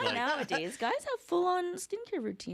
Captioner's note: laughter